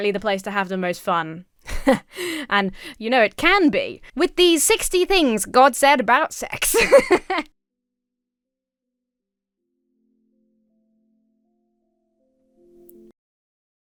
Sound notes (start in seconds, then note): 1.6 chuckles confidently; 6.5 laughs